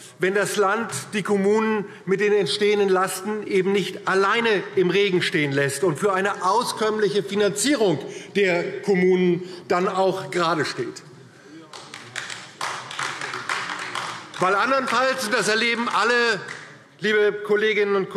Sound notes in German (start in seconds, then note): 11.6 Beifall DIE LINKE